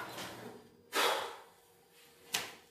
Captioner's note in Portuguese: bufada